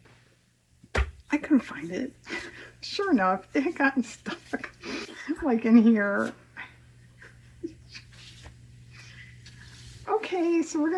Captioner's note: laughs